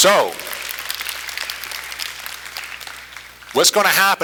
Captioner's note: applause continues